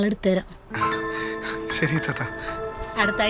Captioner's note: sighs in relief